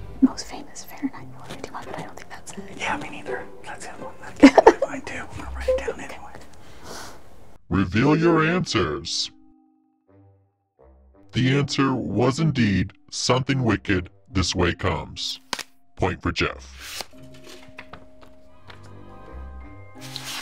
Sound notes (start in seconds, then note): 4.4 giggling; 6.6 sniffing; 8.2 mysterious music; 15.4 card smacking; 16.9 paper rustling; 16.9 paper whooshing